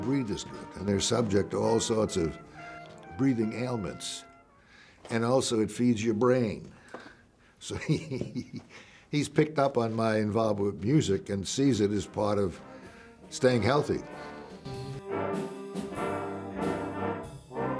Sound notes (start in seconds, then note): 7.6 chuckling; 14.2 instruments playing